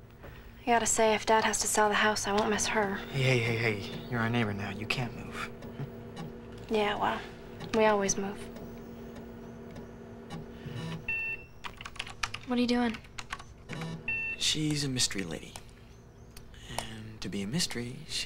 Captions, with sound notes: I GOTTA SAY, IF DAD HAS TO SELL THE HOUSE, I WON'T MISS HER. HEY, HEY, HEY, YOU'RE OUR NEIGHBOR NOW. YOU CAN'T MOVE. YEAH, WELL, WE ALWAYS MOVE. [ COMPUTER BEEPS ] WHAT ARE YOU DOING? SHE'S A MYSTERY LADY. AND TO BE A MYSTERY,